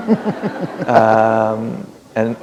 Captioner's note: laughter